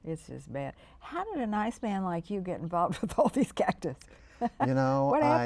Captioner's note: laughs